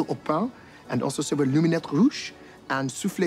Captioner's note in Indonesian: berbicara bahasa prancis